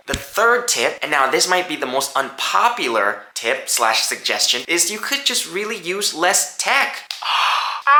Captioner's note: gasps! Screams!